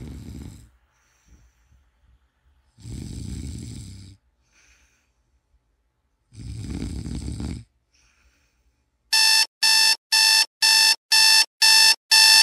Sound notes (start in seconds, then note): 0.8 snoring sounds